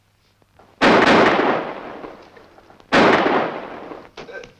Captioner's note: guns firing